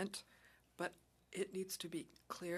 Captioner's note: speaking French